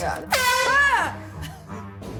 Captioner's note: air horn blast